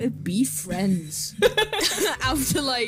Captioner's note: laugh